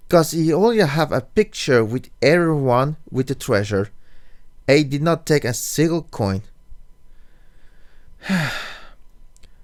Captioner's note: sigh